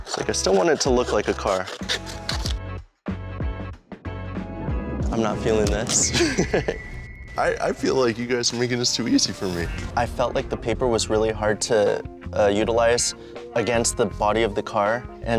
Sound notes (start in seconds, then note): 1.9 shears squeaking; 3.0 upbeat music; 6.1 laughs